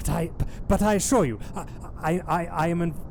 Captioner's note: stammering